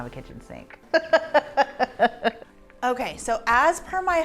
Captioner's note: laughs